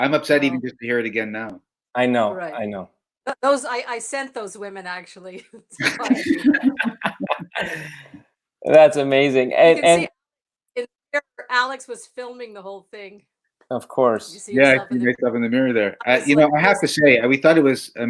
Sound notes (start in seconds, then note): 5.4 laughter